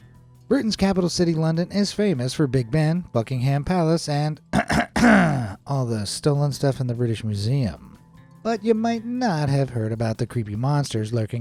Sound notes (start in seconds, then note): 4.5 clears throats